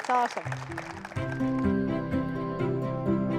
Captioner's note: applause; light music